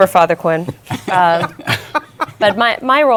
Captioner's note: laughter